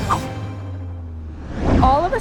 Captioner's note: wind swooshing